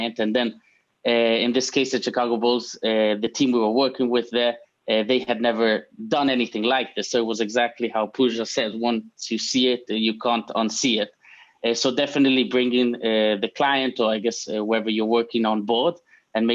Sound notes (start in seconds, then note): none